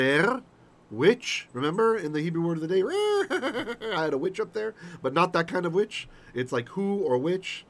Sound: evil laughter

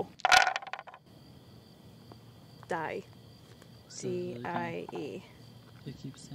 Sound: dice thumping

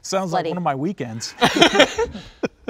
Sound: all laughing

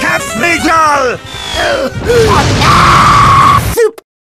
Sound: Dragon Quest magic noise; fwooshhhh

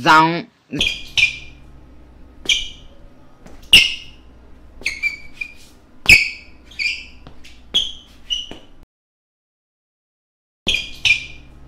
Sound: shoes Squeeking and awkward silence

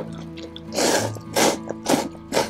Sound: slurps

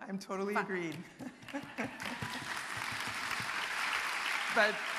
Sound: audience applauding

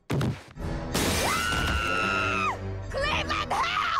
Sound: Donna screams

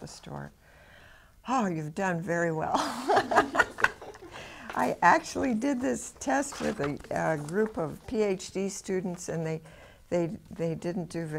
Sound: laughs

